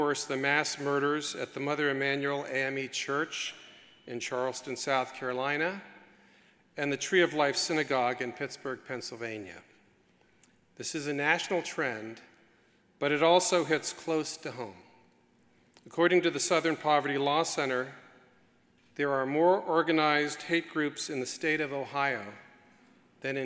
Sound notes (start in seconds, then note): none